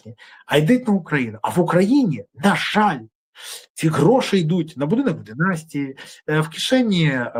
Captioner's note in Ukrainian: сопіння